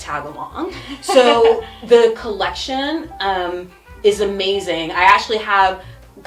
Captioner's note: laughs